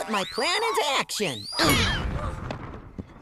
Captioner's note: crashing